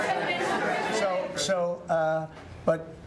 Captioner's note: laughter